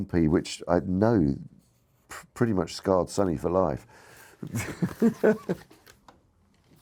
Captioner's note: laughs